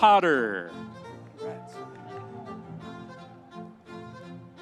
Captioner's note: audience cheering; happy music continues